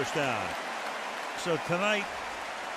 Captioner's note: cheering